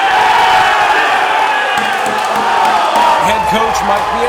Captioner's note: cheering